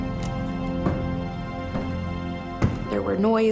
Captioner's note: banging